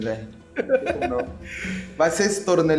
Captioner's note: laughs